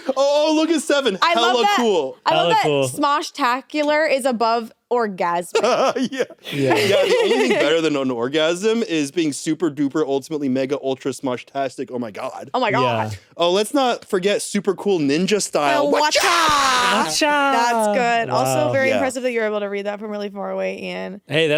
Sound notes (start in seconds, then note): 5.5 laughs; 5.5 giggles